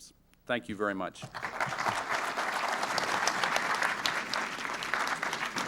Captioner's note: applause